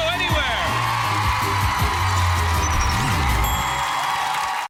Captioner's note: cheering and applause